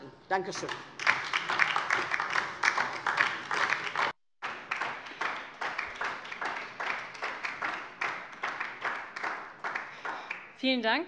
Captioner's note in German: Beifall DIE LINKE